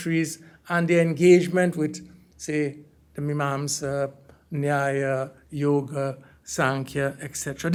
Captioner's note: hindi